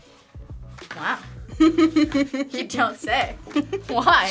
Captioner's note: React laughs